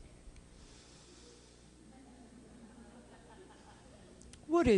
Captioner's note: laughter